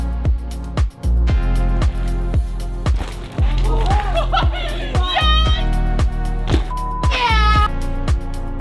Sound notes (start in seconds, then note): 4.3 shouting